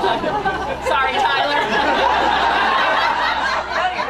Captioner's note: laughter